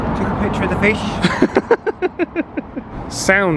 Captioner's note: laughs